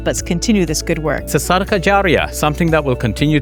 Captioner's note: speaks in foreign language